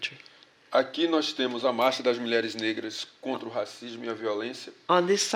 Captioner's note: speaking portuguese